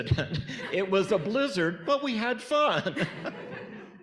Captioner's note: laughs; audience laughing